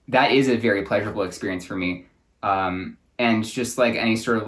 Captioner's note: none